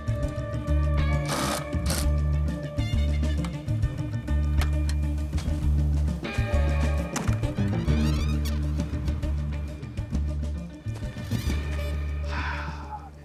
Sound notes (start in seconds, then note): 1.2 drill whirring; 3.0 upbeat music